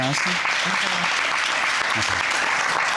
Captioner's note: audience clapping